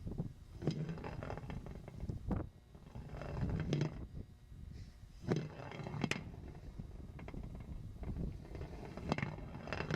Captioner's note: rattling